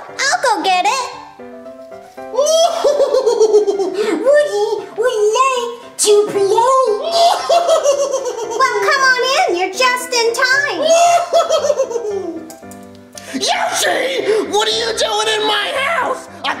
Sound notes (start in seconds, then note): 2.4 laughs; 6.9 laughs; 10.8 laughs